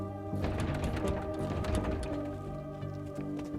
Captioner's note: door rattles